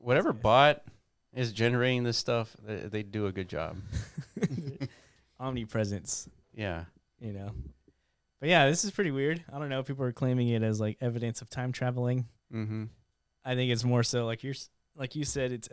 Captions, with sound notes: - Whatever bot is generating this stuff, they do a good job. (laughing) - Omni presence. - Yeah. - You know. But yeah, this is pretty weird. I don't know if people are claiming it as like evidence of time traveling. - Mm-hmm. - I think it's more so like you said,